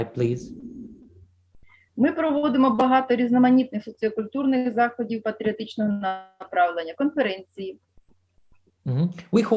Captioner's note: foreign Language